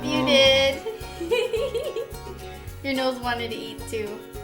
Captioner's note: giggling